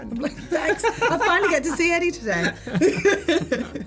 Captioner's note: laughs